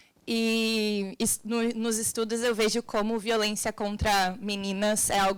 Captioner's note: woman speaking Portuguese